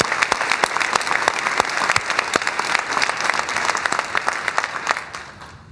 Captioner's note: cheers and applause